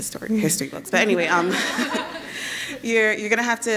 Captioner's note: laughs